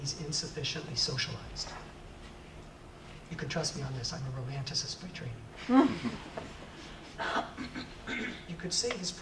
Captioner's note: audience laughs